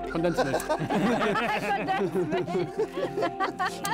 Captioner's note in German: Lachen